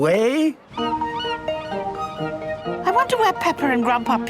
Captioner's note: gulls squawking